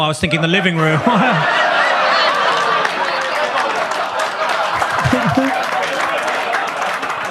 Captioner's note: audience laughs; audience claps